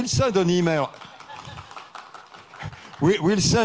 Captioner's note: audience applauds